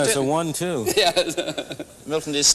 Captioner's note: laughing